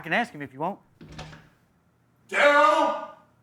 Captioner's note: door clicking